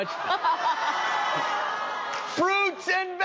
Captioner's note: laugh